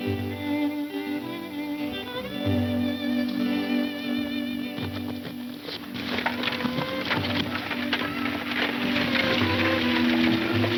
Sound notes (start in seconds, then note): 4.4 wagons clattering